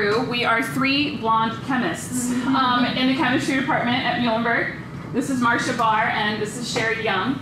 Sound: laughter

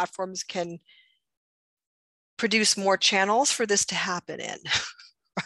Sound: laughs

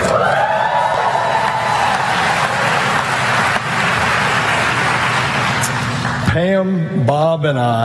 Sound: applause

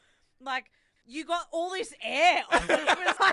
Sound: laughs

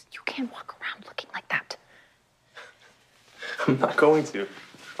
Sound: chuckles

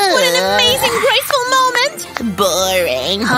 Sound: yawns

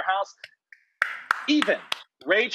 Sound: Rachael clapping

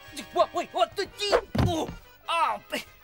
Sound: grunts

